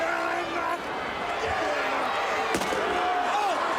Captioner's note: crowd chatter